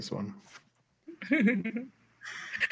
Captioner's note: laughter